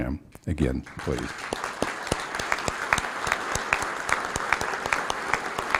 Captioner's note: applause